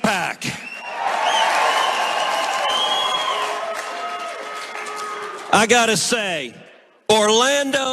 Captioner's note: applause